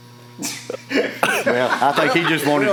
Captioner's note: laughs loudly